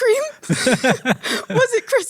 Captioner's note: laughing